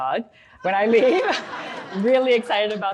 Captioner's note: audience laughs